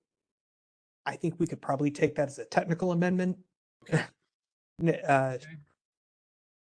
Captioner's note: laugh